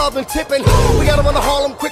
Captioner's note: boom!